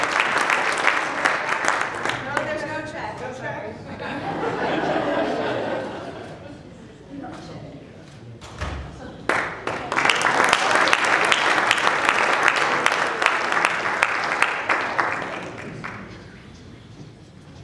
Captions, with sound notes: - No, there's no check. - No check? (laughing) (applause)